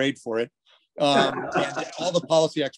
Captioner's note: laughs